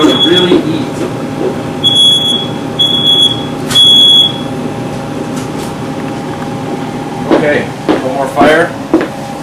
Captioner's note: fire alarm beep again